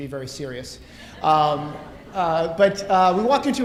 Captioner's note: audience laughing